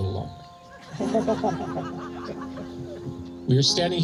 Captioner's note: laughter